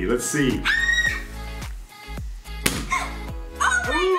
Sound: screaming

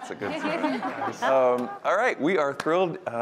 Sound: laughter

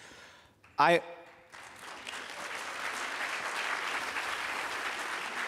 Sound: applause

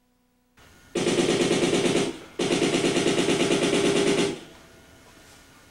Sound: machine gunfire

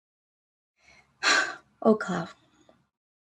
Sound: sighs

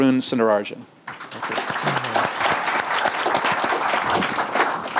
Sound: audience applauding

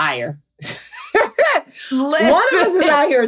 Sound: laughs

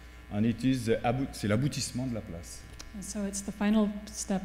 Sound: speaking french

